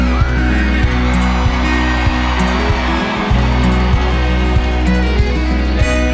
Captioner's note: audience cheering